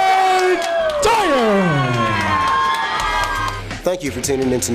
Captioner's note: crowd cheers